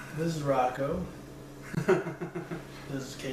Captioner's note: laughter